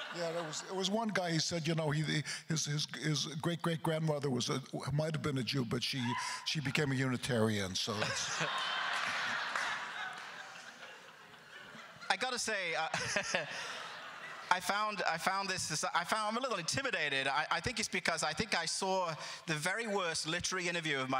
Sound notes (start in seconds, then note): 7.9 crowd laughter; 14.0 laughs